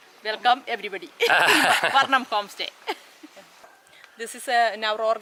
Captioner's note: laughter